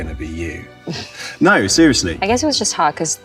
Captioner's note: Yerin laughs